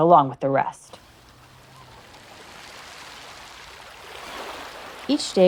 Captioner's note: gulls and waves